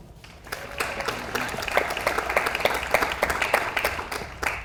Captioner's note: audience applauds